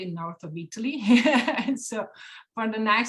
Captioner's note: laughs hysterically